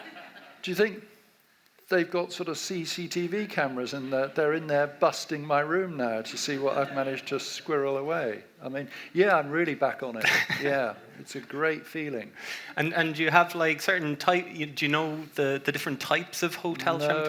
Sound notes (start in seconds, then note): 0.0 audience laughs; 10.2 laughs